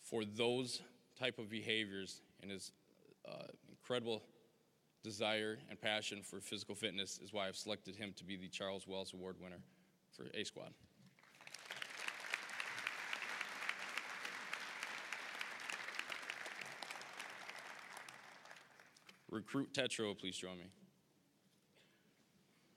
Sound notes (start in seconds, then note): 11.1 applause